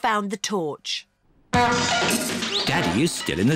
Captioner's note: crashing